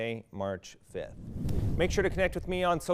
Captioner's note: air whooshing